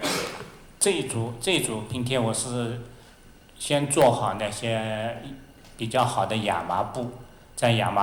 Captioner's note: Mandarin